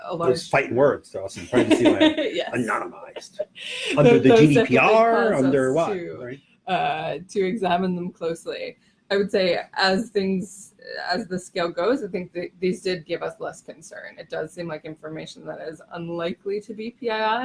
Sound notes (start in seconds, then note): 1.3 laughs